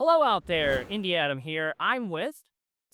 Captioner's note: transition whooshes